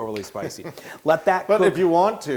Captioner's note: laugh